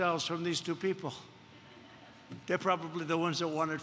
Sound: laughter

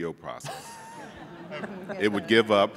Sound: laughing

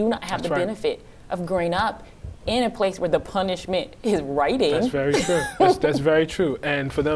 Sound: laughing

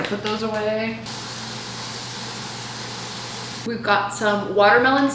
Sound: water runs

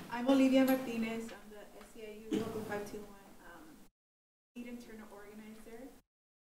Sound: microphone cutting out

